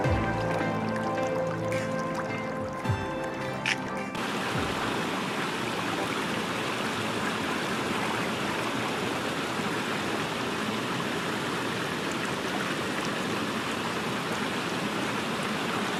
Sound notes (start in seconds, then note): 4.6 running water